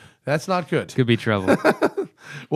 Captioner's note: laughter